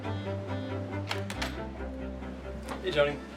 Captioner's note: doorknob turns